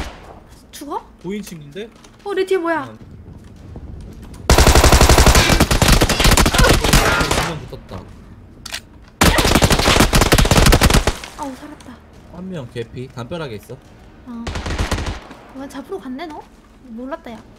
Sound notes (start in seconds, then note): 1.0 footsteps